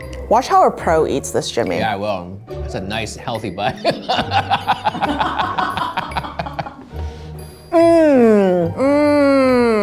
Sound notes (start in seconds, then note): 3.7 everyone laughs